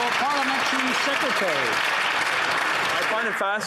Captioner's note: some Applause